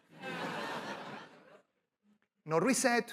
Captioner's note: laughter